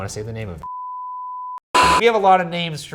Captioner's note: beep